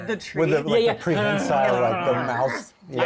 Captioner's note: growling